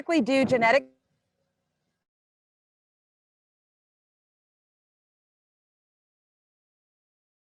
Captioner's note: silence